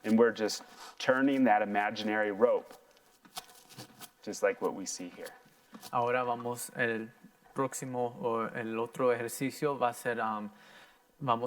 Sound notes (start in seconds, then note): 4.5 footsteps tapping; 6.2 in foreign language